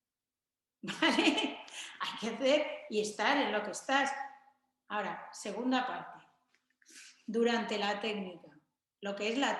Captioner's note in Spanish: risas